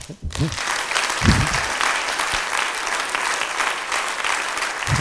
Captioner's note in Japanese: 拍手